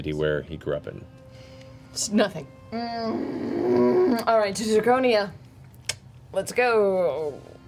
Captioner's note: groans